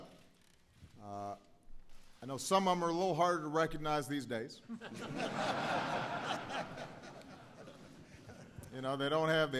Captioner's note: laughter